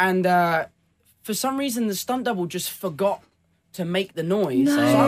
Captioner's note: no!!